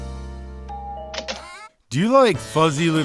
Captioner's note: doorbell chime